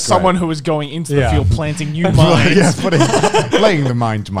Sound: men laughing

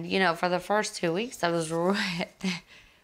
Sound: exhales exaggeratedly

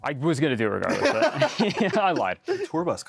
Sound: both laugh

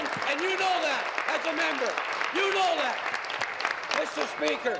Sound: applause

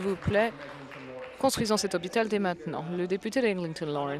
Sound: some applause

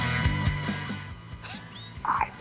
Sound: Dec laughing

